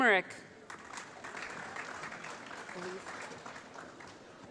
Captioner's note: applause